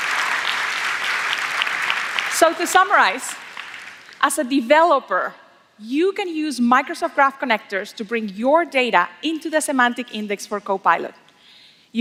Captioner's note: applause